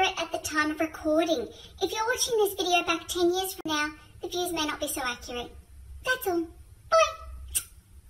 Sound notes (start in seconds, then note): 7.4 smooch